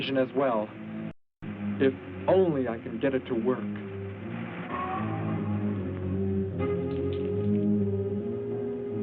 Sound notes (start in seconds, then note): 4.6 animal wails